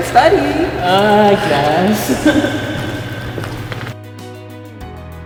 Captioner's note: laughing; light music